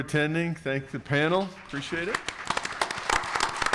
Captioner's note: attendees clapping